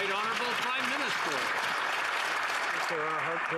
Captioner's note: some Applause